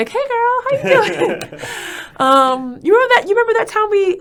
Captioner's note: both laughing